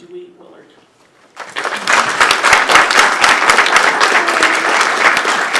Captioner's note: applause